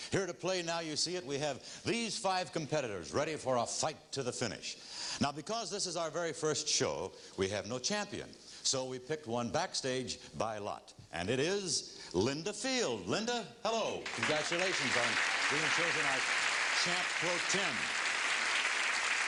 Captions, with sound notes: Here to play Now You See It, we have these five competitors, ready for a fight to the finish. Now because this is our very first show, we have no champion, so we picked one backstage by lot, and it is, Linda Field. Linda? Hello. -(applause) -Congratulations on being chosen as Champ pro-tem.